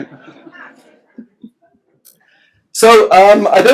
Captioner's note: laughs